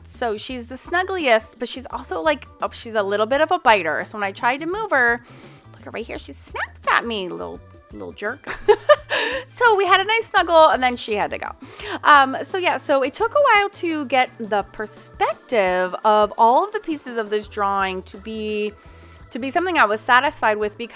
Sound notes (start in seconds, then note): 8.6 laughs